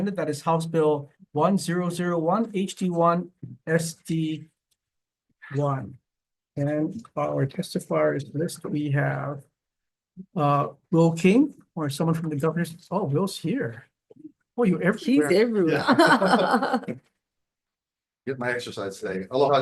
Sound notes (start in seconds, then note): 15.7 all chuckling